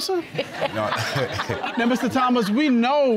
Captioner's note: all laughing